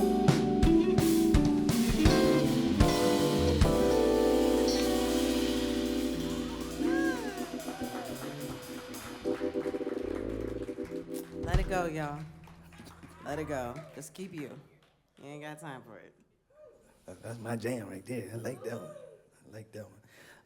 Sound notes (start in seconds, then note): 11.8 applause